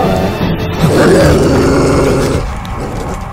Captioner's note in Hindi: कुत्ता गुर्राता है